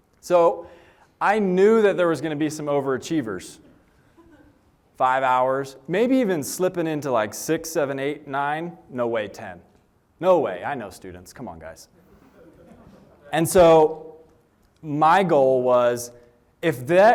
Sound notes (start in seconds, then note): 12.0 laughter